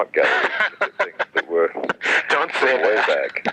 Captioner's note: laughing